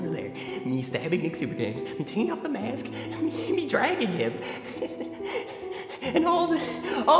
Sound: laughs

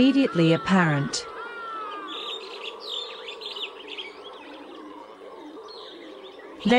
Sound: forest and howler monkey sounds

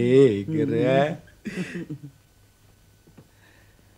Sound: chuckles

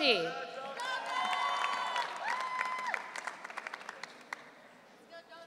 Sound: audience cheering

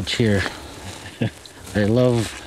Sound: chuckle

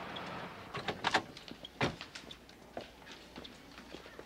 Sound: car tires screeching; car door clunking

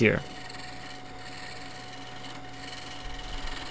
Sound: scraping

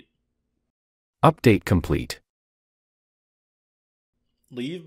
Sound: bot saying

